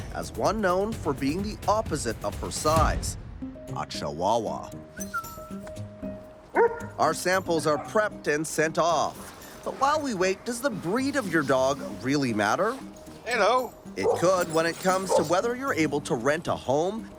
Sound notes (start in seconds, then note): 4.9 whistling; 5.0 dog barks